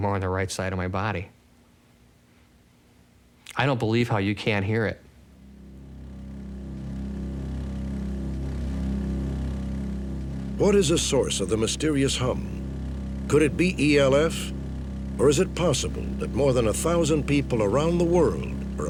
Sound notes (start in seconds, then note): 5.9 low humming